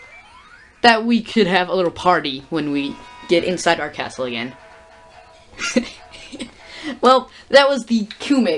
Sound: quiet laughter

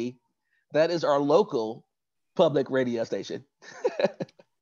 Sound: laughs

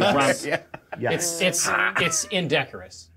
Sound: co-hosts laughing

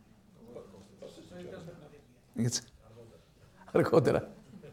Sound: speaks in foreign language

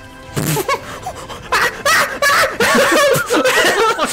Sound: monkey noises

